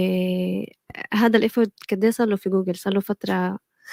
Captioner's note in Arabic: لغة أجنبية